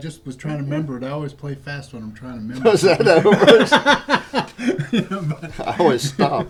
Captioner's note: laughter